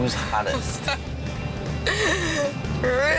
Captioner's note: laughing